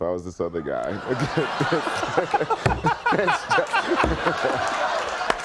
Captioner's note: crowd laughing